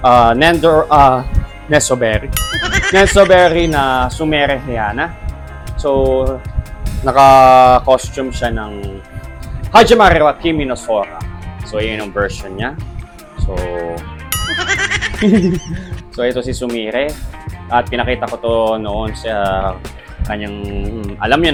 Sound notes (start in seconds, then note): 14.4 chuckles